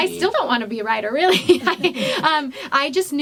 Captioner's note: laughs